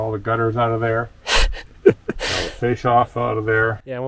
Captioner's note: laughing